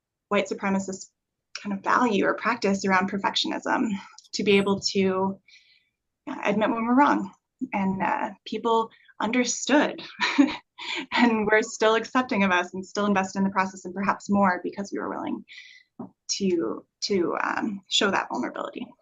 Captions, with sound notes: white supremacist kind of value or practice around perfectionism, to be able to admit when we're wrong. And people understood, [chuckle] and were still accepting of us and still invested in the process, and perhaps more, because we were willing to show that vulnerability.